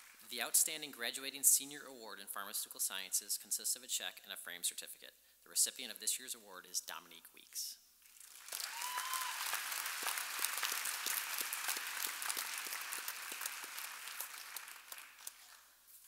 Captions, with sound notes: The Outstanding Graduating Senior Award in Pharmaceutical Sciences consists of check and a framed certificate. The recipient of this years award is Dominique Weeks. (audience applauding and cheering)